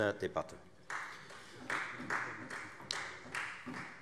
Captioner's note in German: Beifall Freie Demokraten